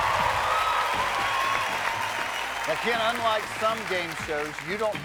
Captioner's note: cheers and applause